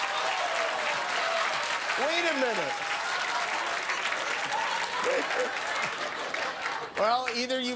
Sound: cheers and applause

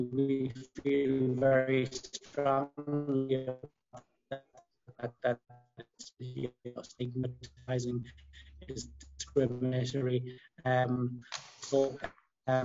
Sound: sound distortion

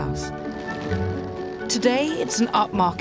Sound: suitcase rolls

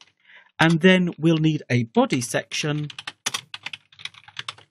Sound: typing

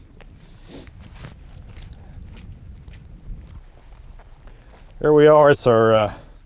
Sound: wind whooshing

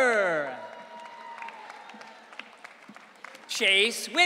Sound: audience cheering

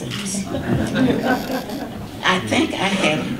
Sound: audience laughter

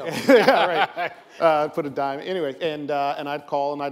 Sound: laughs

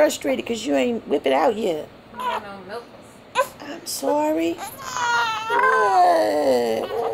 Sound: grunts

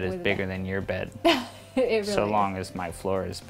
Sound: laughing

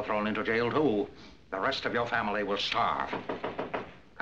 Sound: knocking

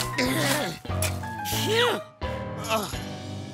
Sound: sighing

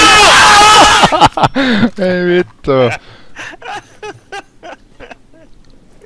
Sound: laughing

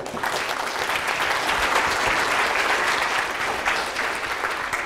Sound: class applauding

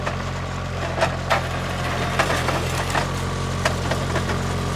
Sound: vehicle whirring

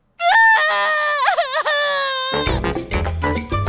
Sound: cries

